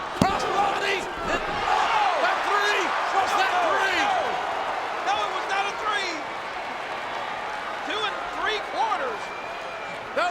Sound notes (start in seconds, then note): 1.5 audience cheering